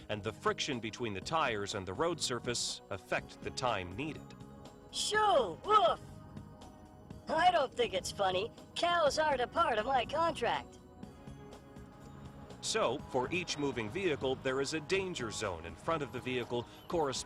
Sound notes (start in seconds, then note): 5.1 dummy shouting; 12.9 voiceover